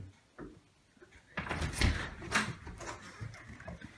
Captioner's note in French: Door opening